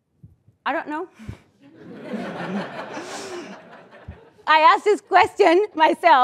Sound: laugh

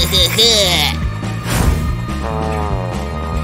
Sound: making happy sounds

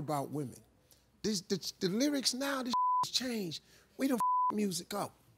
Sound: beep

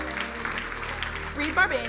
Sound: crowd applauding

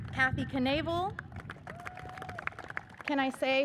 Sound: audience cheers and applauds

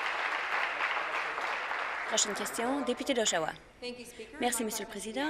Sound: applause

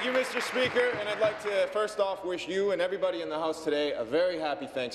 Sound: cheers; applause

